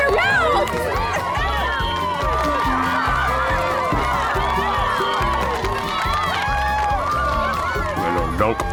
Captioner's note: cheering